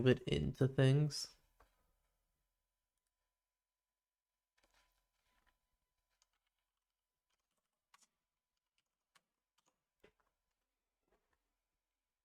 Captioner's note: silence